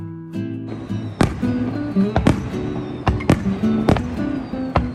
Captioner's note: fireworks start suddenly